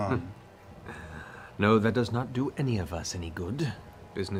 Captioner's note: chuckles